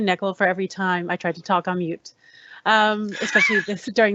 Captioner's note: laughs